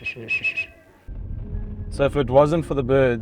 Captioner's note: whistles